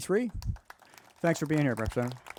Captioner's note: crowd applauding